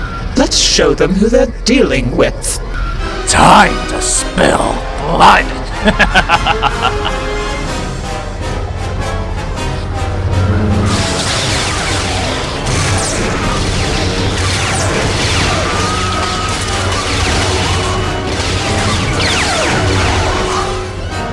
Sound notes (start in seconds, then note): 5.4 evil laugh